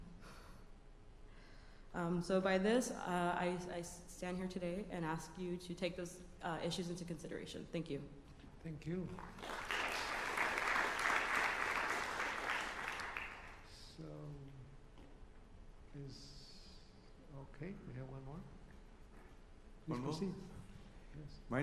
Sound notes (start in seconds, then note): 9.1 applause